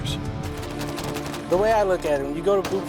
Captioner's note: voiceover; gunfire